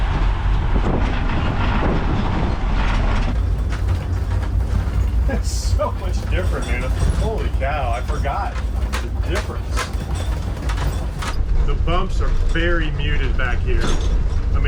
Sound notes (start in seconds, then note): 3.8 metal rattling